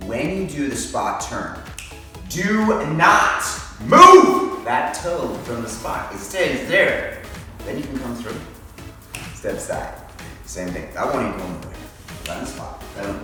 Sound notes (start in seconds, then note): 9.0 snaps fingers